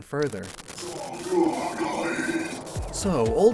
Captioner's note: Regigiest cry